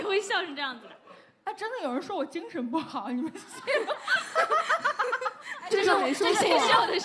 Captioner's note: insert maniac laugh